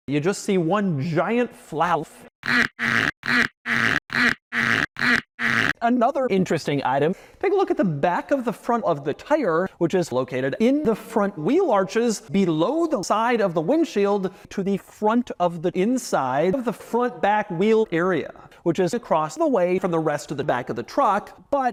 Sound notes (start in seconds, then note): 2.4 very unpleasant rubber rubbing sound